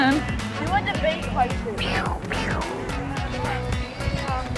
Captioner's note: Spiderman noises